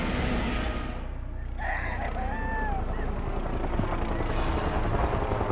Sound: Caitlyn screams

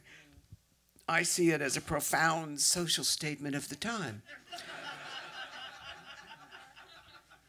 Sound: laughter

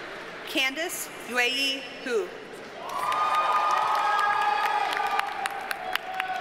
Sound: audience cheers and applauds

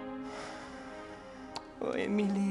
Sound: sighs

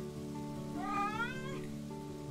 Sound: chirpy meow

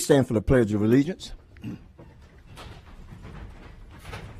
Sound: moment of silence

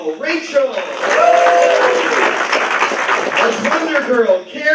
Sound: applause

